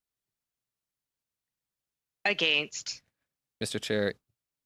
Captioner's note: speaking French